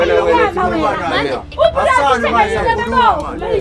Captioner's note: arguining